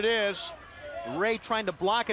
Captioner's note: crowd chatter